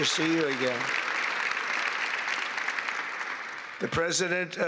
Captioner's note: applause